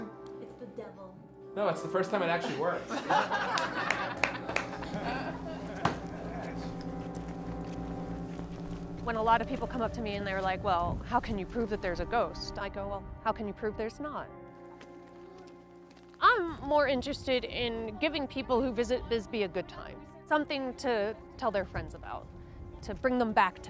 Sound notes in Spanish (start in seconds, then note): 6.7 público se ríe; 9.3 música sombría de órgano